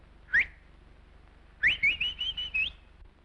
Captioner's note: whistling